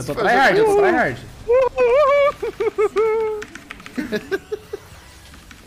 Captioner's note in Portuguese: risos